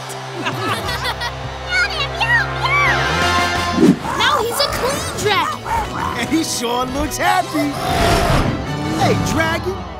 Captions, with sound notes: [laughing] [meowing] Now he's a clean dragon! And he sure looks happy! Hey, dragon,